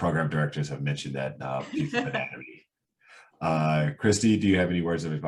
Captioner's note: laughing